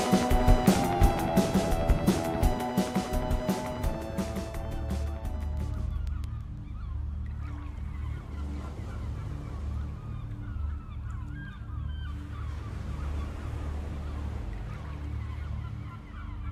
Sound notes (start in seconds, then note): 5.2 gulls squawking; 9.8 gull squawking; 12.6 waves crashing